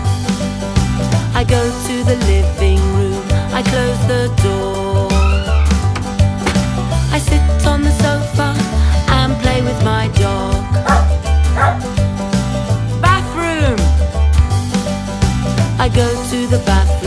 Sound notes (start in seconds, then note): 11.4 wof, wof!